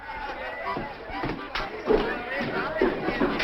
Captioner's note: crowd talking and laughing